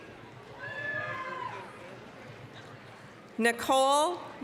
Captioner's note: applause, cheering